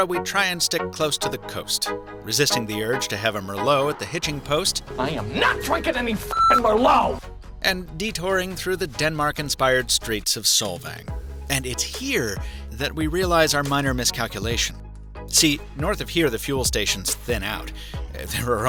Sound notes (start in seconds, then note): 6.3 beep